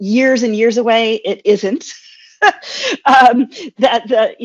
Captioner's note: chuckles